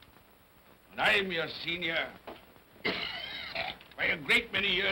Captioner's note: Scrooge coughs